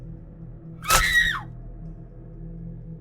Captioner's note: Emma screaming